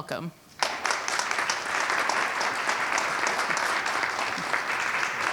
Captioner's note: audience clapping